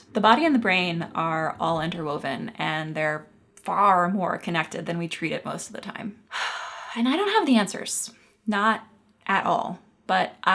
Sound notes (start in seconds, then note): 6.4 sighs